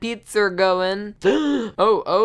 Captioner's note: gasp